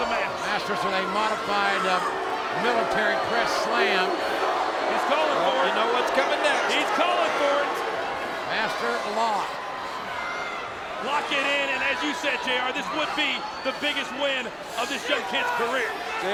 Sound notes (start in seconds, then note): 4.3 audience booing